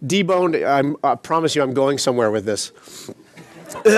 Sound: laughter

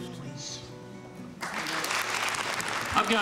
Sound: applause

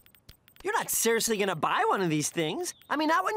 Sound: none

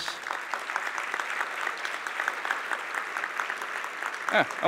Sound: applause

